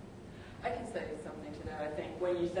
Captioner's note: woman's Voice